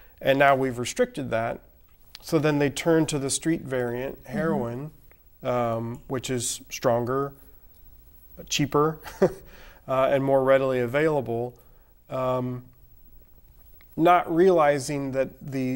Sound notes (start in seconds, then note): 9.0 �chuckling�